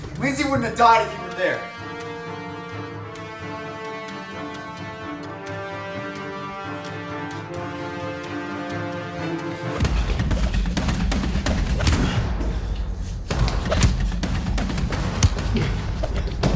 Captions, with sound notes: - Lindsey wouldn't have died if you were there! (dramatic music) (blows striking) (dramatic music)